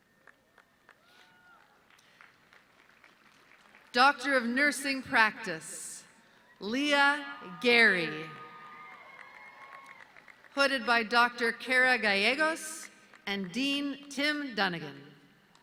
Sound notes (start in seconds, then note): 0.1 audience clapping